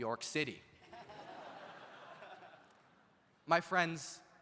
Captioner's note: audience laughs